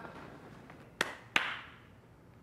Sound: applause

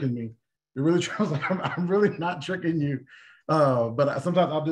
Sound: laughter

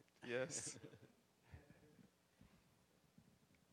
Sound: chuckling

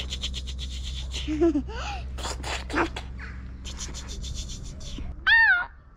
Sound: imitating peacock noises

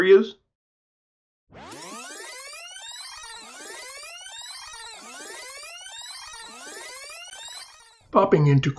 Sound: sound of video tape fast forwarding

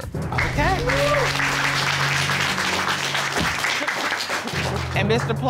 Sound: applause

